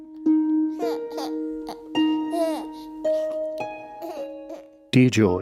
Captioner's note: baby gurgling